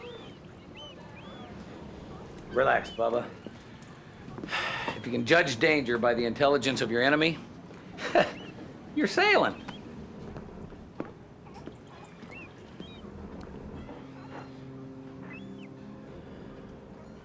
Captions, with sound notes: Relax, bubba. (sighs) If you can judge danger by the intelligence of your enemy... (chuckles) you're sailing.